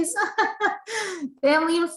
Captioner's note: chuckles